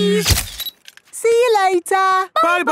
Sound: camera click

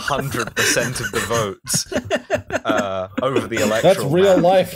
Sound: laughter

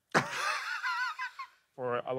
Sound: blonde women chortle

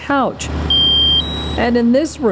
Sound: smoke alarm blaring

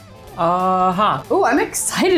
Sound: speaking in Hindi

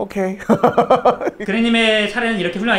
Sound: just laughs

